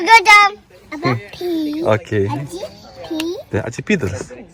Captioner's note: baby talk